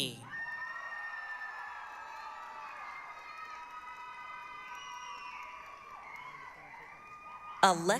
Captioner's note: applause, cheering